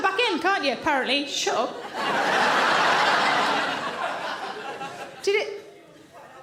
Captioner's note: audience laughing